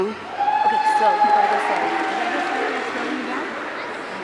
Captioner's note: audience cheering